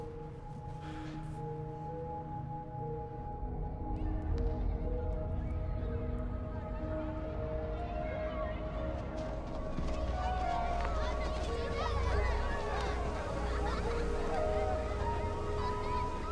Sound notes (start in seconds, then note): 0.1 gentle suspenseful music; 4.2 voices whispering; 11.8 children chattering and laughing